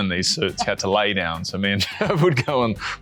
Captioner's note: laughing